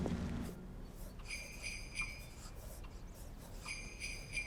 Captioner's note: bells jingling